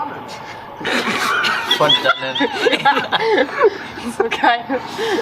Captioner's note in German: alle lachen